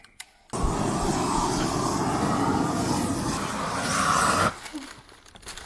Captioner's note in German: brennerrauschen